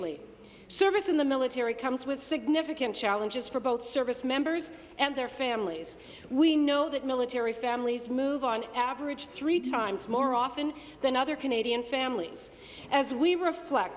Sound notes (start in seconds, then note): none